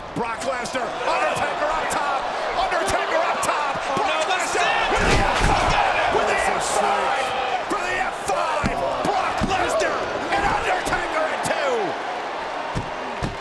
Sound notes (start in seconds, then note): 4.4 commentators murmuring; 4.4 crowd clamoring